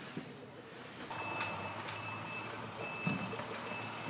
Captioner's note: beeping